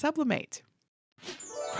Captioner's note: bells chiming